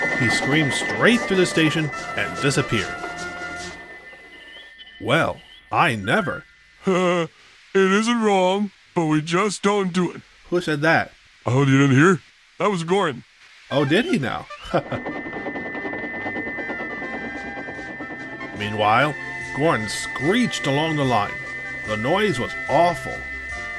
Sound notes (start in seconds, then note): 7.1 chuckles; 13.8 laughs